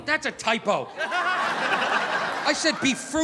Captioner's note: audience laughing